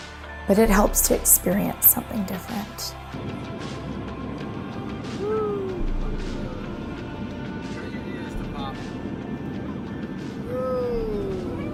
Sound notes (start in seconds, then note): 3.8 air plane take-off